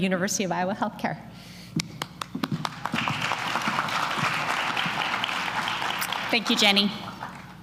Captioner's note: applause